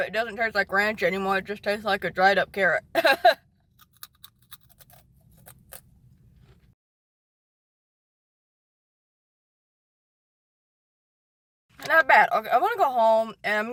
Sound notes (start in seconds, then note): 3.1 laughing; 3.7 crunching